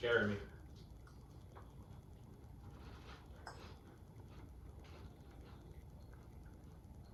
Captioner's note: chewing